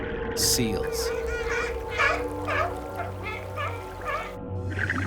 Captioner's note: seals call